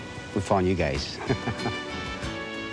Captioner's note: laughs